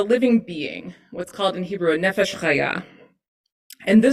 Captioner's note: hebrew